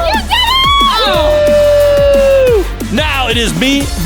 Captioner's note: cheering